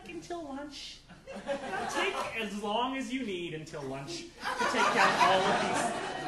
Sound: audience laughing

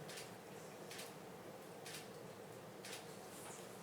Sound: shutter clicks

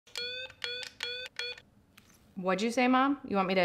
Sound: annoying siren noise from toy megaphone

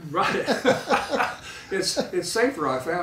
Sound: laughing

